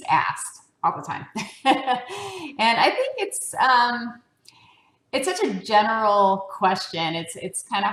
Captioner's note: laugh